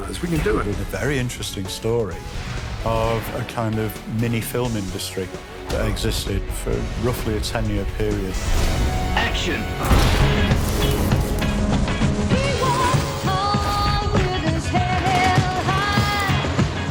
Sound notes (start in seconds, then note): 9.1 rock music crescendo; 9.7 explosion; 9.7 gun bangs